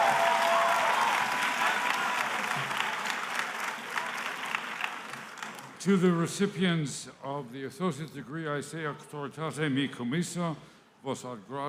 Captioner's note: cheering